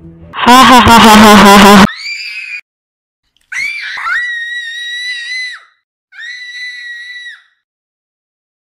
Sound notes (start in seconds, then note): 0.3 ??? laughs; 1.9 Aiden screams